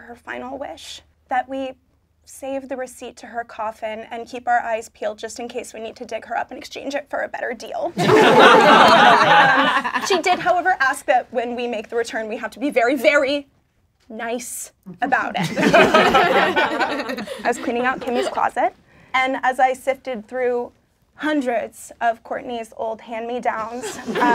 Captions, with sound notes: her final wish, that we save the receipt to her coffin and keep our eyes peeled just in case we need to dig her up and exchange it for a better deal. (laughing) She did, however, ask that when we make the return, we have to be very, very nice about it. I was cleaning out Kimmy's closet and as I sifted through hundreds of Courtney's old hand-me-downs,